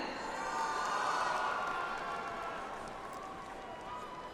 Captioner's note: audience applauds